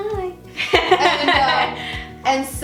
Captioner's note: laughing